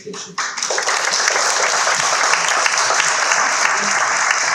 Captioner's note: audience clapping